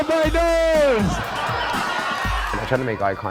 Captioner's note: audience laughing